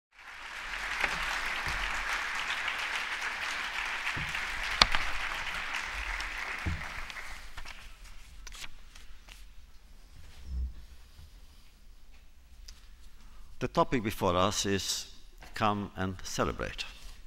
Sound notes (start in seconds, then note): 0.1 applause